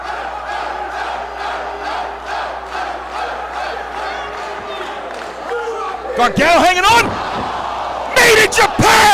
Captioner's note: applause